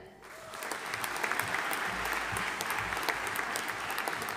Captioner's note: audience applauding